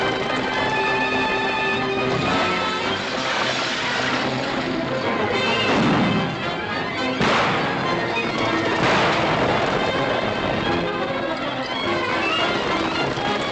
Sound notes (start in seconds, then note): 5.5 gunshots